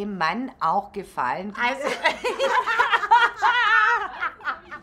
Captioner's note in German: Lachen